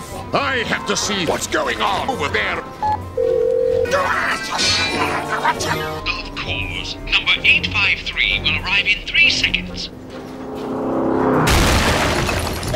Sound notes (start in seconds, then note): 2.8 phone calling tone again; 6.2 on phone; 9.8 car approaching rapidly; 11.3 clunk; 11.4 smash